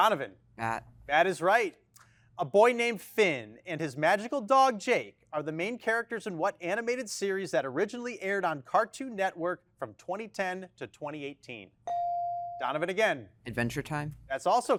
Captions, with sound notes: Donovan. - Bat. - Bat is right. A boy named Finn and his magical dog Jake, are the main characters in what animated series that originally aired on Cartoon Network from 2010 to 2018? (bell chiming) Donovan again. - Adventure Time.